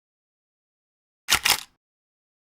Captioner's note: camera click